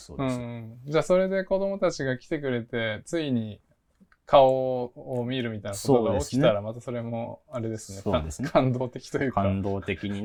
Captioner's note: laugh